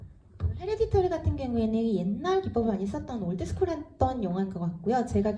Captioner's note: speaks in foreign language